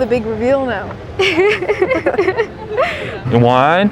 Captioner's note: both giggling